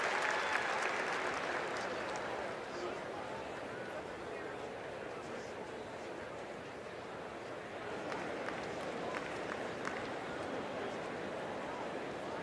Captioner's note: applause